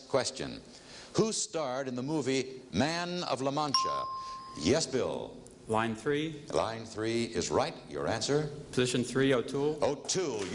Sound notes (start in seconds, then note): 3.7 ringing bell